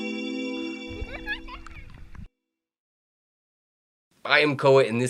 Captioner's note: theme music; girl giggles